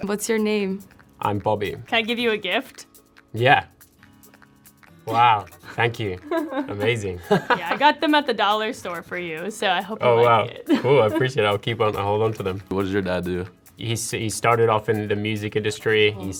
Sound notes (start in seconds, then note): 7.6 laughs